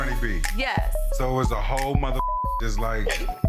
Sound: beep

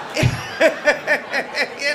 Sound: laughter

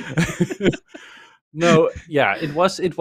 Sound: laughter

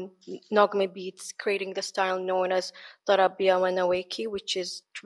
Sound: speaks in foreign language

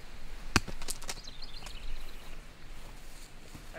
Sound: thudding

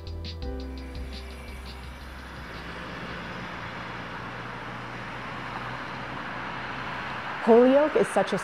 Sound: cars passing

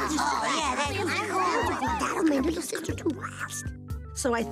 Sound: excited chatter

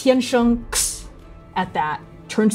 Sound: scoffing

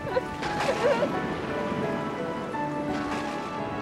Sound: thunder booms

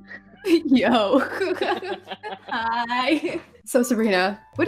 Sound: laughing

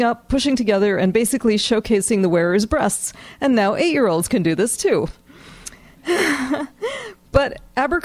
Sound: laughs

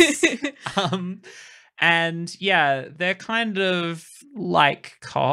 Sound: laughing

